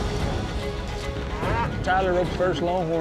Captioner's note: longhorn bellows